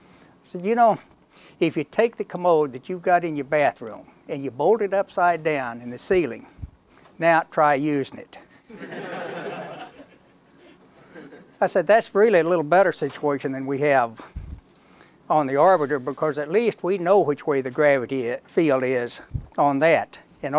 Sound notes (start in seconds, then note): 8.6 laughter